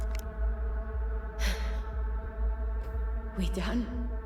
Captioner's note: sighs